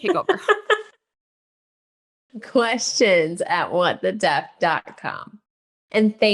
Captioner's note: laughing